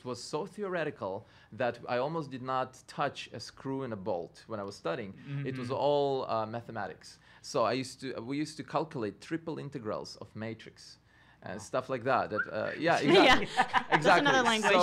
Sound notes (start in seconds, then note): 12.3 whistles quietly; 12.7 laughing